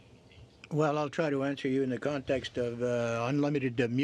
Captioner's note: speaking French